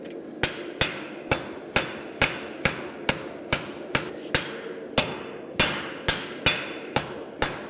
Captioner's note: sharp metallic hammering